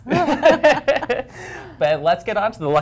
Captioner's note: laughter